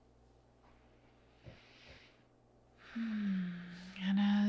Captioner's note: instructor inhales and exhales